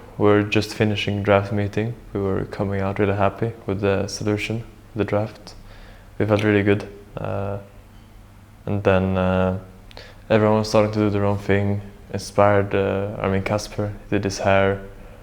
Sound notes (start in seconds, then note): none